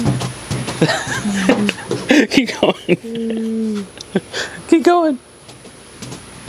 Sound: laughs

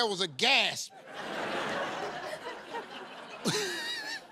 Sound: laughter

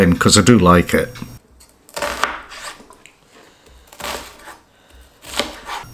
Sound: slicing

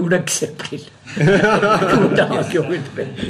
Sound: laughter; laughs

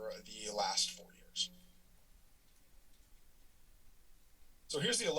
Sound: silence

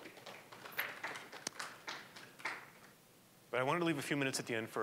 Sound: applause

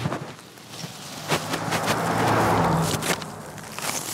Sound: car whoosing

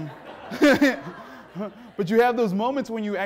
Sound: audience laughing; laughs

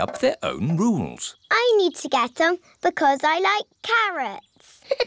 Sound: laughs

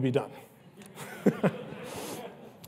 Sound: laughs

